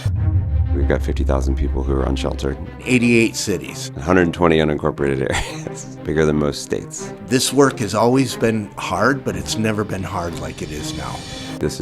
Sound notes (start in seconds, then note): 0.2 gentle music; 5.2 chuckles